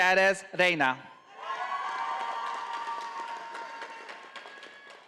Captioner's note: audience applauding